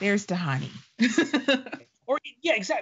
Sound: laughing

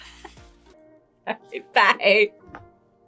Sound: laughs

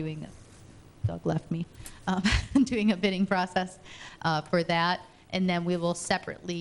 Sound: chuckles

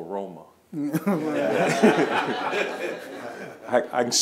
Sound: laughing

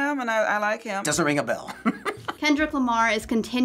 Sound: laughing

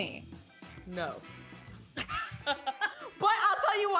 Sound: both laugh

